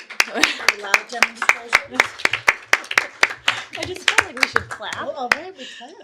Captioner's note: applause